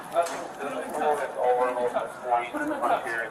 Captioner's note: radio chatter